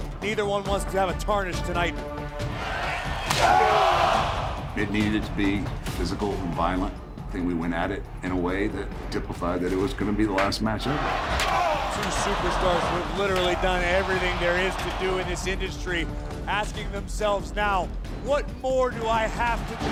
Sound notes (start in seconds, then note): 3.1 Triple H shouts